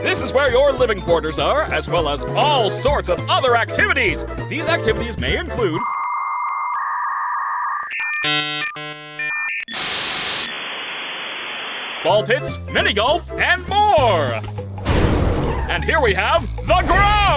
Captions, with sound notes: This is where your living quarters are, as well as all sorts of other activities! These activities may include... [dial-up tone blares] ...Ball pits, mini golf, and more! And here, we have...